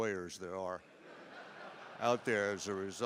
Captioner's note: laughter